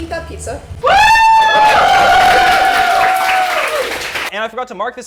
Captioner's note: applause